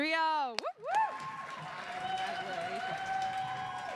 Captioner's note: audience applauding